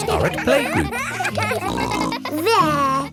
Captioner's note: kids giggling